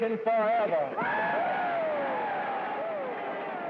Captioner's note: cheers and applause